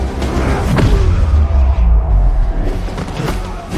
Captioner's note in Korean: 신음